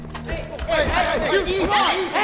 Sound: shouting

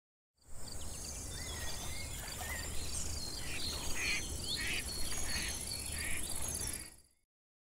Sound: nature sounds, duck quacking

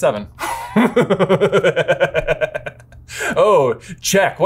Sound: laughs

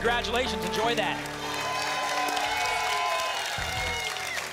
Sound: applause and cheering

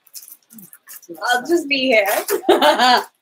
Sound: laughing

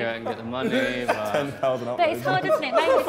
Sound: Sidemen laughing

